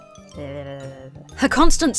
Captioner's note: vocally wags tongue